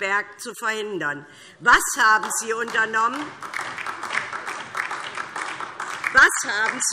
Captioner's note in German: Beifall DIE LINKE